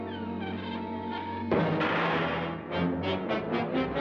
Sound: door creaks; doors closes hard; dramatic ominous music

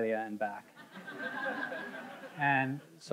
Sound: audience laughing

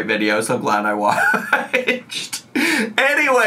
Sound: laughs

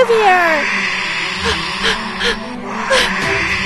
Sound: breathless; screech

